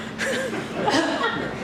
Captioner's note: cough